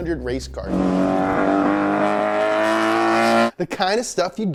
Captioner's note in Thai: เสียงคำรามของเครื่องยนต์